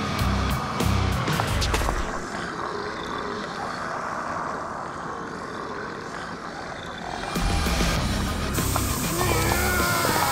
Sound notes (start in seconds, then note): 2.0 growling